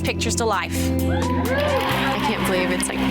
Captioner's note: women cheering